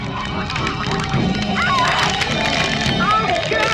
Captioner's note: screams